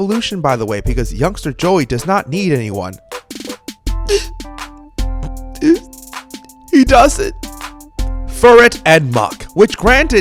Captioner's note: sniff